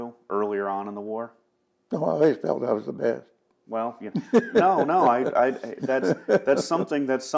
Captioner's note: laughs